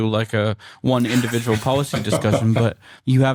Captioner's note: laughter